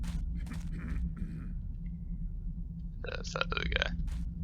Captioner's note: guard coughs